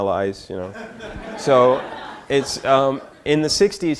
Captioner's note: audience laughter